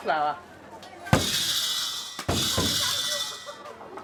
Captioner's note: sound of balls bouncing